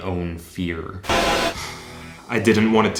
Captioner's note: static